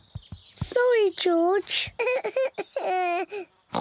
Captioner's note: whimpers; oinks